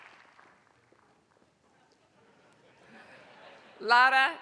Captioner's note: applause; laugh